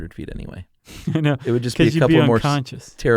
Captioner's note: laughs